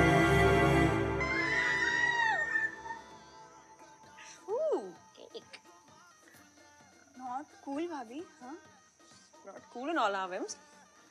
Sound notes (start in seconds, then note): 1.2 Shouting